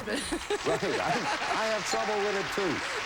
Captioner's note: audience applauding